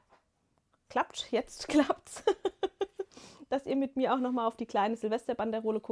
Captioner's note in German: gelächter